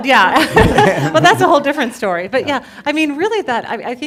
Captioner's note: laughing